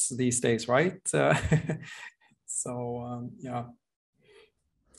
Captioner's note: chuckles